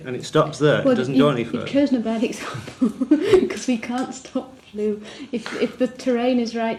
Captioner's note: laughs